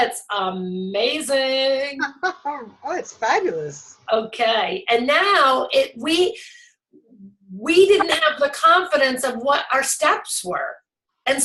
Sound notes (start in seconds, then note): 2.0 laughs